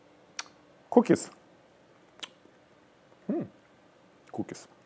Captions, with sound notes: Cookies. (groaning) Cookies.